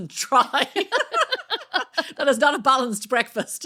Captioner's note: laughs